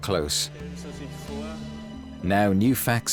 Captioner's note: speaking German